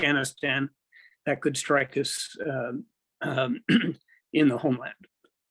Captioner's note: clears throat